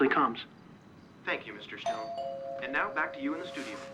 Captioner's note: doorbell ringing